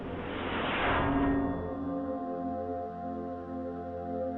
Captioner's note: distant metal clanking; solemn orchestral music